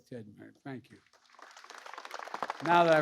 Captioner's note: applause